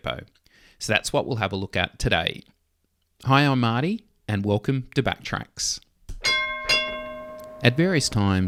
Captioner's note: tram Bell